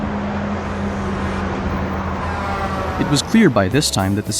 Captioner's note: truck horn blaring past